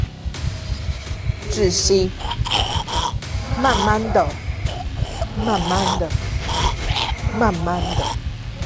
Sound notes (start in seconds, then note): 2.0 Mandarin language; 4.1 Mandarin language; 5.9 Mandarin language; 7.9 Mandarin language